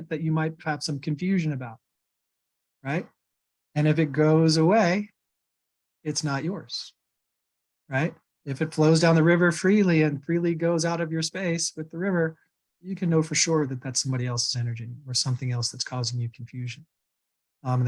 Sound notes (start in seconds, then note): none